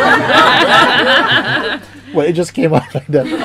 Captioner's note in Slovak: Smiech